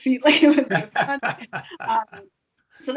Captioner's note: laughing